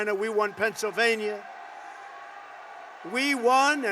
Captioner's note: applause